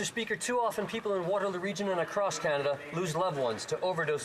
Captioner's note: some Applause